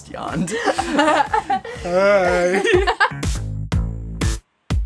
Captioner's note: laughs; vocalizes; groovy drum and bass music